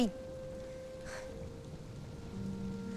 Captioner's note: exhales